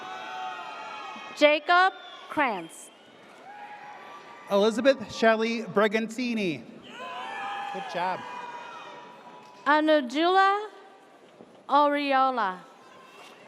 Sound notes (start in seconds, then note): 0.0 audience cheers; 3.3 audience cheers; 6.9 audience cheers